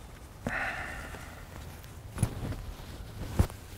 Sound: sighs

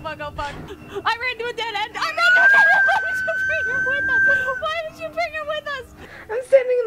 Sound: just squealing in fear

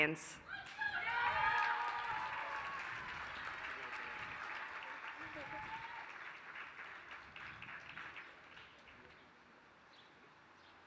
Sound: applause

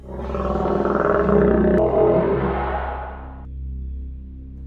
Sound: strange growling

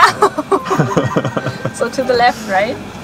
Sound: both laughing

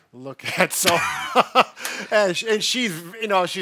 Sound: both laugh

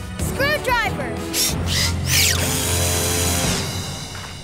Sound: drill running

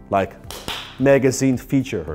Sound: claps hands

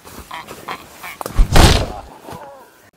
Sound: smack

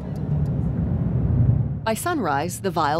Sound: vehicle engine humming

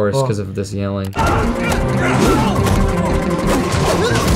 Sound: yells; grunts

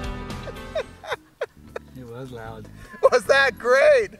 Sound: laughter

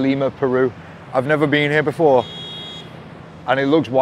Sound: car horn beeps

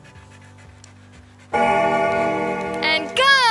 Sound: bell ringing

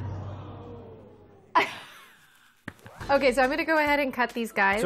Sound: laughs

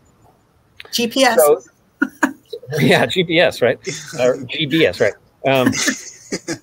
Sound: chuckling

